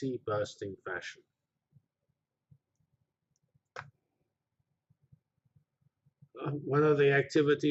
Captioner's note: pause